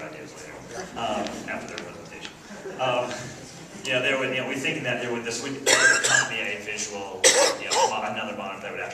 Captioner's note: laughs